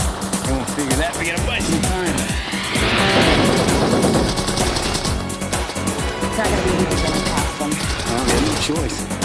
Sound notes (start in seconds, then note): 3.2 gunfire